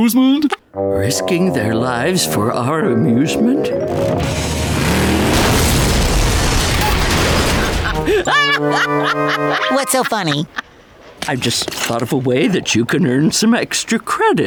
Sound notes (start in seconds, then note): 3.8 crashing; 7.6 laughing